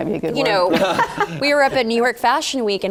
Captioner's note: laugh